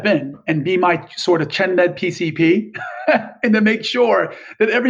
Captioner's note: laughs